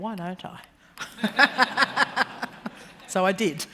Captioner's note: laughter